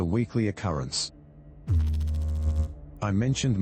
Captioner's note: electrical noise